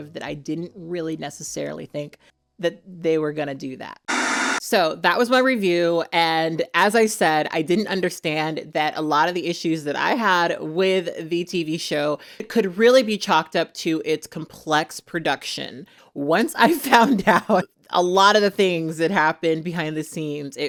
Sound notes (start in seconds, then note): 4.1 static hisses